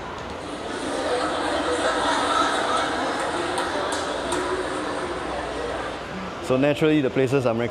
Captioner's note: laugh track